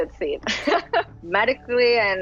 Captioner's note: laughs